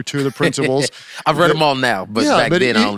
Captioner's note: laughs